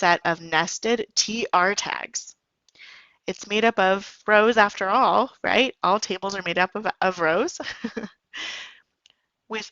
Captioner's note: giggle